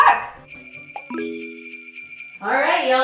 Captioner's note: bells jingle